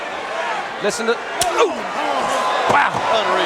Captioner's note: chop striking